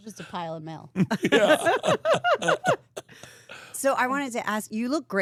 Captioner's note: laughs